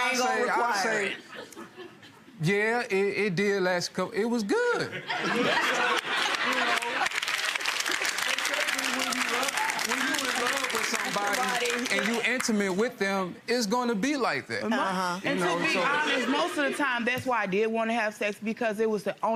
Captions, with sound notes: but I ain't gonna require it. - I'll say yeah it did last, it was good. So you know. (audience applause) it's gonna be like that. - And to be honest most of the time that's why I did wanna have sex,